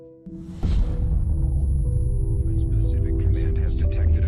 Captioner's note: gentle eerie music; bomb exploding